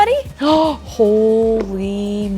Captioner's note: gasps